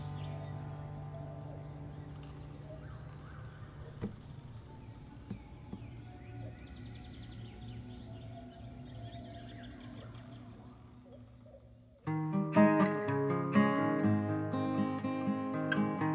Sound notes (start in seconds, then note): 3.0 birds singing; 12.4 bright music